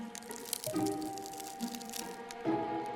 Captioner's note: cracking noises